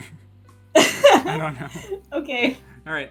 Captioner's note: laugh